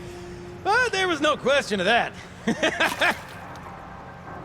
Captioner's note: laughs